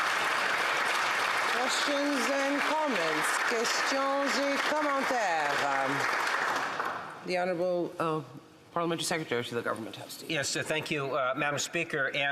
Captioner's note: applause